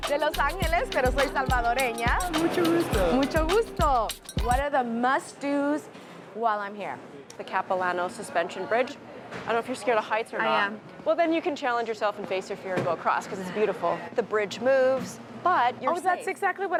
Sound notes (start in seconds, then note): 0.2 speaking in foreign language; 2.4 shopkeeper speaking in foreign language